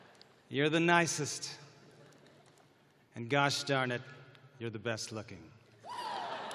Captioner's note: cheering